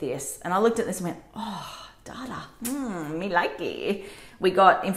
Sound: smooch

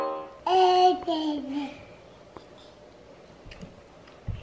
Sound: piano music; baby cooing

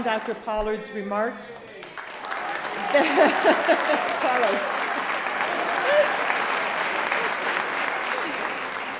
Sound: applause

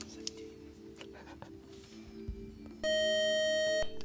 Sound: time-out buzzer

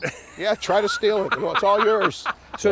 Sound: laughing

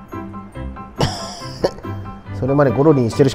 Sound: laughs

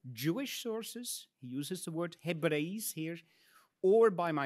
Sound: speaks in Latin

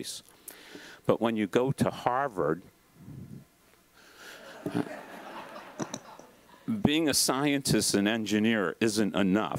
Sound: laugh

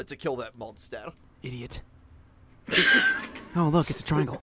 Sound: voice actors wheeze together

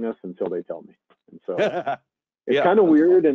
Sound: laughing

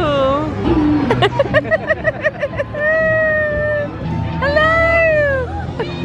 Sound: laughing

